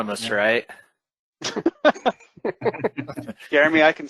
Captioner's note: laughter